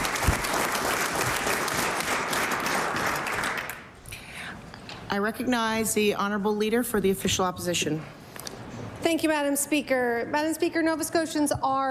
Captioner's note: applause